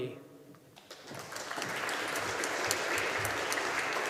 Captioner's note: audience applauding